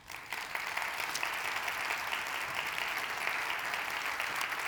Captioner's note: audience applauding